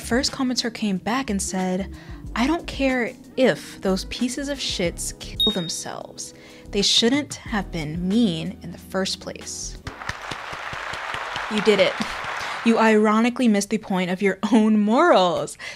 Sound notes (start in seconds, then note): 9.8 clapping